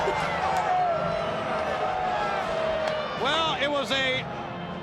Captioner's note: crowd chatter